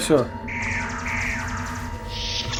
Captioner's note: phaser fire